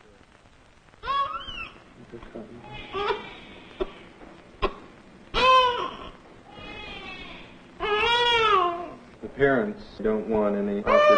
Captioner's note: baby crying